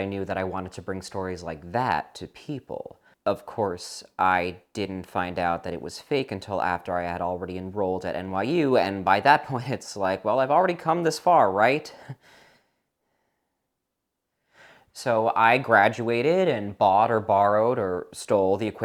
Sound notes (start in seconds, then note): 13.3 chuckles